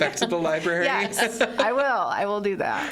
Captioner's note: all laughing